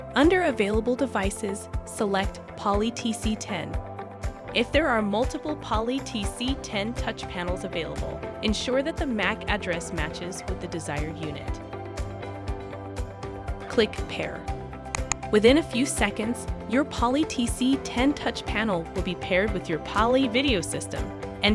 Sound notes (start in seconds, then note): 14.9 mouse click